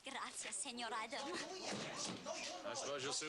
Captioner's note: arguing in Spanish